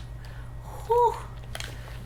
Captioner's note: sigh